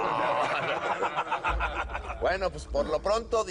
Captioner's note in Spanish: Risas